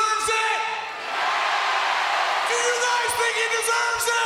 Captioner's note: crowd cheering